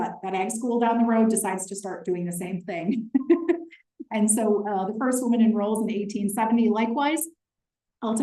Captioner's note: laughter